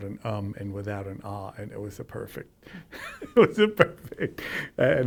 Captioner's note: laughs